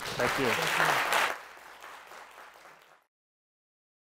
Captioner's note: audience claps